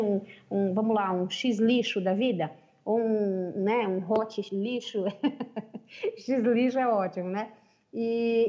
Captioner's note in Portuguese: risos